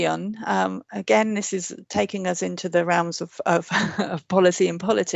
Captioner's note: chuckles